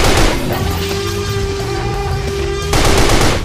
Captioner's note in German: Dinosaurierschreie